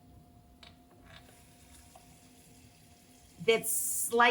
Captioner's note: water runs from tap